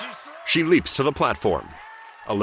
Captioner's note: cheers and applause